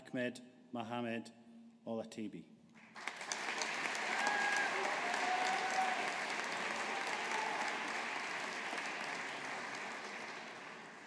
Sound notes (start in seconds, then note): 2.8 audience applauding